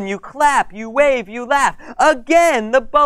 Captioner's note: none